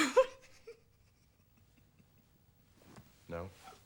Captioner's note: laughs